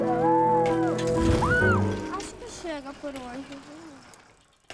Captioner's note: grita